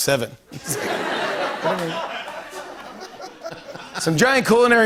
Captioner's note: laughter